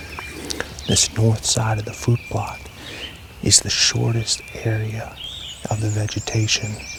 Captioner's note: whispering